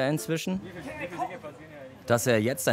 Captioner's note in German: Stimmengewirr